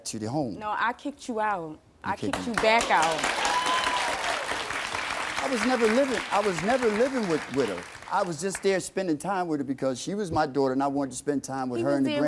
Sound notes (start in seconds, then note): 2.5 audience cheering